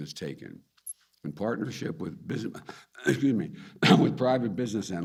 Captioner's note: coughs